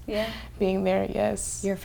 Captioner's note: none